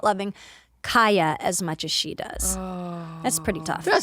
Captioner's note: sighs